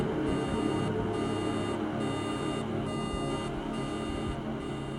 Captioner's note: ominous music; thunder and electronic beeping